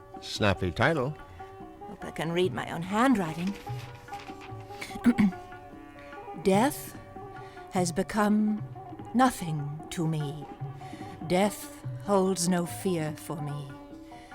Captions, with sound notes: >> Snappy title. >> I hope I can read my own handwriting. [ Paper rustles ] [ Clears throat ] "Death has become nothing to me. Death holds no fear for me.